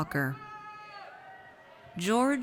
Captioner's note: audience cheers